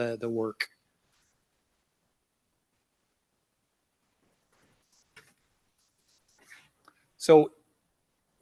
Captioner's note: silence